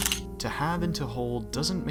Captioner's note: camera shutter